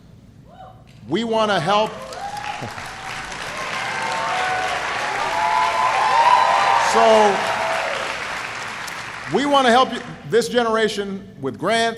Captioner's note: applause